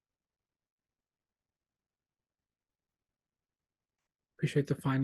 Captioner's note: silence